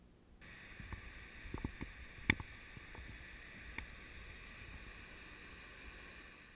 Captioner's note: sounds of river